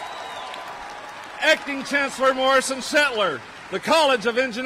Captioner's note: cheers and applause